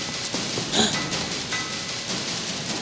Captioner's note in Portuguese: Ambos suspiro